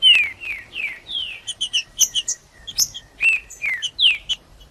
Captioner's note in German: trinca ferro cantando